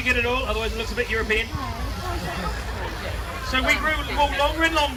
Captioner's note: crowd laughs